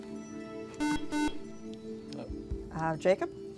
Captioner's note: buzzer